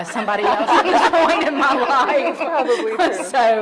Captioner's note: everyone laughing